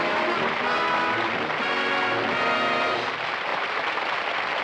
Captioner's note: applause